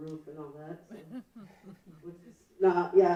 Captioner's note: laughing